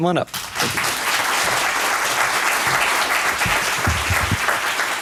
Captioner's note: applause